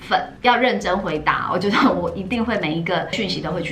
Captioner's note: laugh